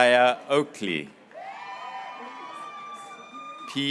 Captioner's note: graduates cheering